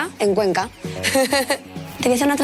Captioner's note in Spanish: Risas